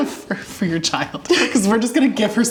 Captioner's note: laughs